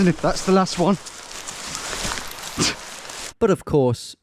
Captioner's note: twigs snapping